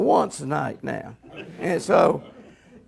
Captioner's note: audience laughs